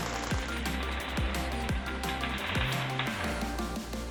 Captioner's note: upbeat music continues; machine crackling